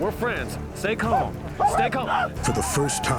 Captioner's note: whooping sounds